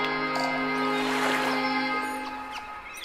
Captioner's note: water flowing; birds singing